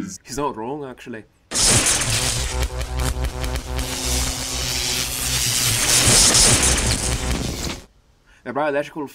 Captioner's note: no response as static discharges